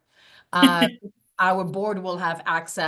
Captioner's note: laughing